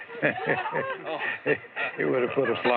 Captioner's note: laughter